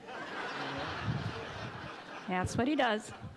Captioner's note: audience laughs